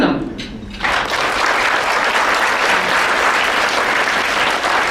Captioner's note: audience applauds